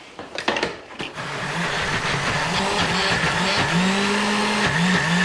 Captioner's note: buzzing